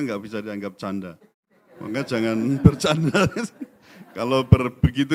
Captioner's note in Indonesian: tertawa